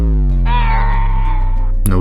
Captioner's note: Golum noises